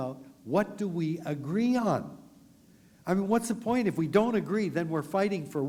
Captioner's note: none